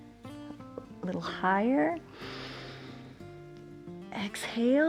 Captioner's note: inhales; exhales